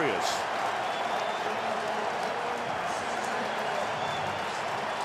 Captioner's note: cheering